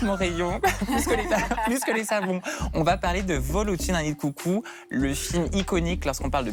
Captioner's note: laughter